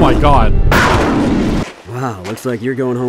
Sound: pow

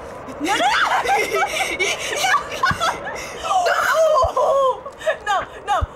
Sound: laughs

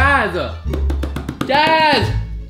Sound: tapping on table

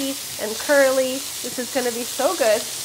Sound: sizzling

